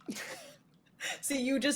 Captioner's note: laughing